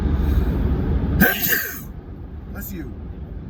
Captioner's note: sneezes